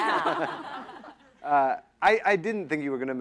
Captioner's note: laughter